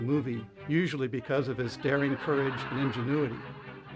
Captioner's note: audience laughs